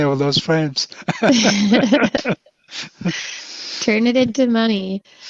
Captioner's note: both laughing